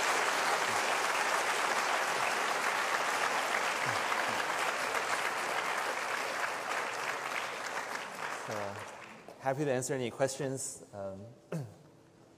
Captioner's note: applause